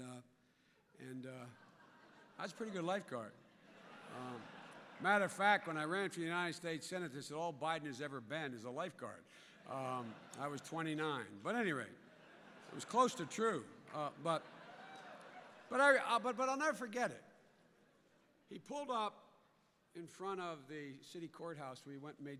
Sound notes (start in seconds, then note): 3.4 laughter; 9.6 laughter; 13.8 laughter